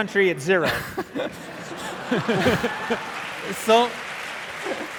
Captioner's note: audience applauding